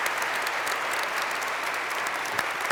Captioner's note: applause